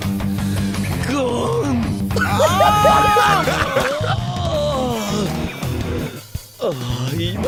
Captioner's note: groaning; laughing; speaking in foreign language